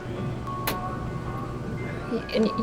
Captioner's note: dryer clicks, then a short tune plays